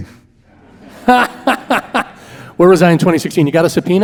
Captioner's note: laughing